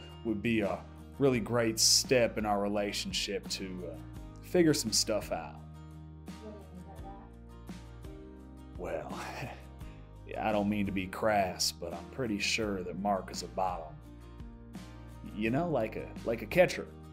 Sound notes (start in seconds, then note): 9.2 laughs nervously